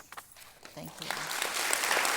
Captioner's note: applause